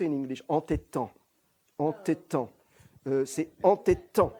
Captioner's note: french